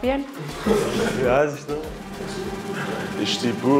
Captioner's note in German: lachen